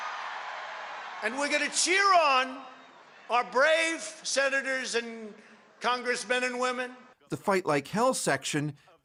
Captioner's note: cheers and Applause